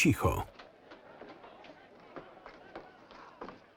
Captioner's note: crowd clamoring